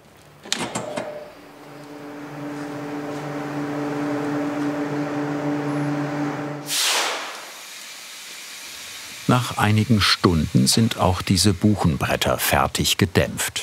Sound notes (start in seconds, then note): 2.6 low whirring; 6.6 hissing